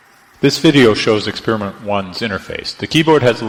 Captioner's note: voiceover